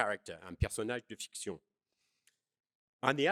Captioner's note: speaking french